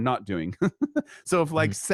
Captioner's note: laughs